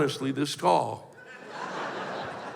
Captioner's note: laughter